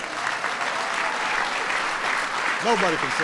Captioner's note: applause